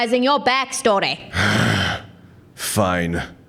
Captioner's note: groan